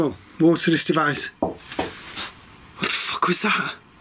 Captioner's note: knocking